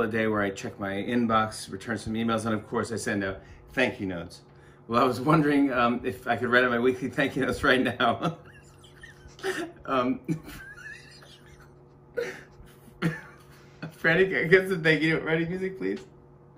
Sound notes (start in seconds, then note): 4.6 laughing; 8.1 laughter